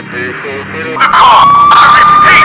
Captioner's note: sirens